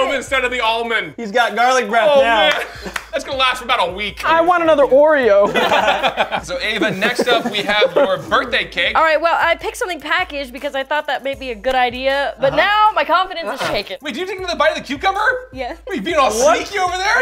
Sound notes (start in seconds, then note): 5.4 laughter